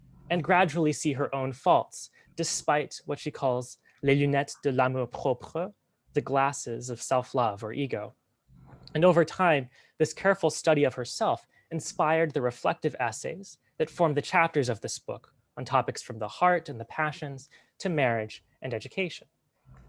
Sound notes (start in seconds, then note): 3.8 french